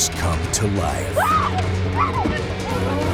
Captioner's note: woman screaming